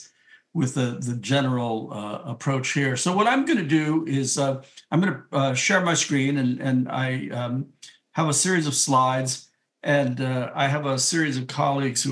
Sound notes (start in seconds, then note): none